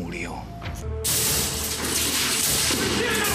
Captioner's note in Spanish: estruendo